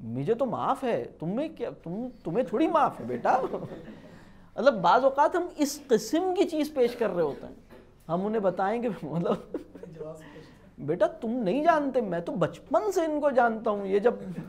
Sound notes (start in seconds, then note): 9.1 laugh